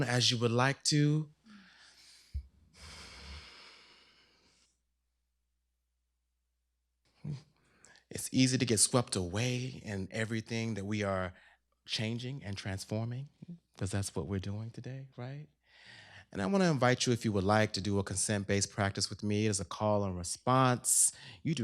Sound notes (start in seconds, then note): 2.7 inhales, exhales